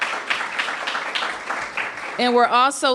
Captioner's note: applause